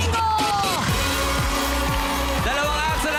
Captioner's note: audience cheering